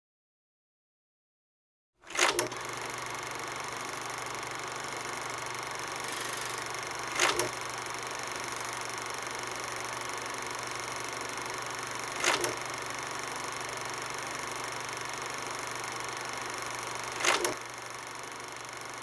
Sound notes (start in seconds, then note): 1.7 sound of movie reel running